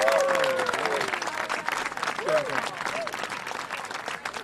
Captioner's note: applause and cheering